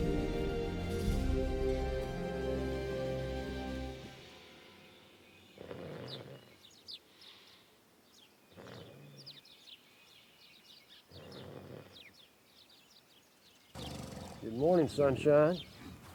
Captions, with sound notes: (birds chirping) (Samuel snoring softly) Good morning, sunshine.